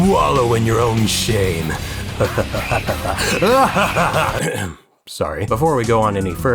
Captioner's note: ahem